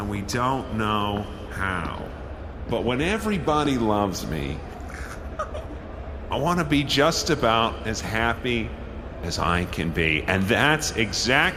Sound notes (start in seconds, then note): 4.8 a stifled giggle from someone